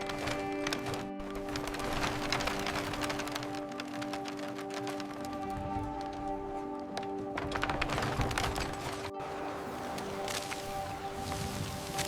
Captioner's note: woven cloth rustles